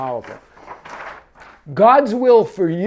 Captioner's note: paper rustles